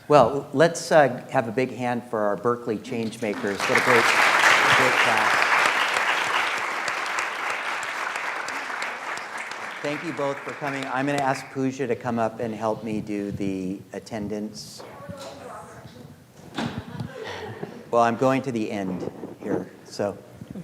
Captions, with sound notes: Well, let's have a big hand for our Berkeley Changemakers. (audience applauds) Thank you both for coming, I'm gonna ask Pooja to come up and help me do the attendance. (murmurs) Well, I'm going to the end here, so.